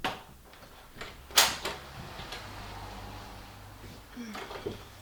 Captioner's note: door opening